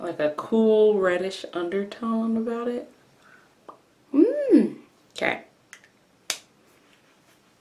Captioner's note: lip pops